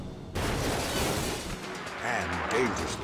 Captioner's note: metal clashes